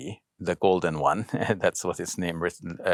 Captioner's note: man chuckles